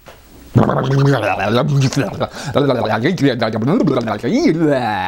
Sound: funny noises made

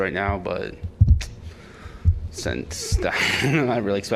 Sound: laughter

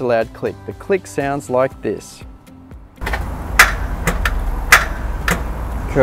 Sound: solenoid clicks repeatedly

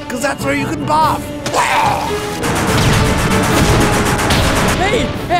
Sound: vomits

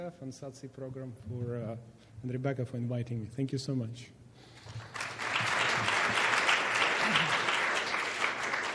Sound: clapping

